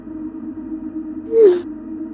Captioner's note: ominous Tone; notification Sound; ominous Tone